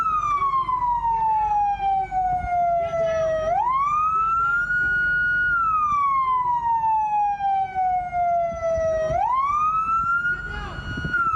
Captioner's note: sirens